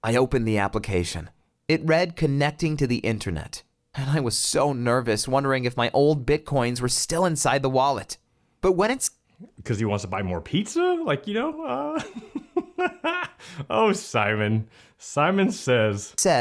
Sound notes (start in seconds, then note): 11.4 laughs